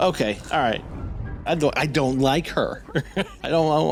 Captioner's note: laughs